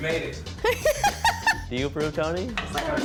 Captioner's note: laughs